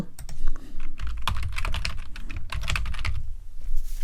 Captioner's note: keyboard clacking